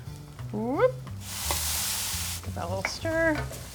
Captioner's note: noodles sizzle